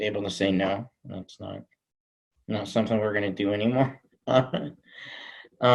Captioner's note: chuckles